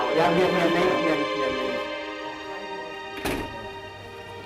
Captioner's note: non-english